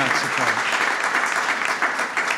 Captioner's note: applause